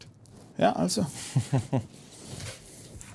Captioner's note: satisfied chuckle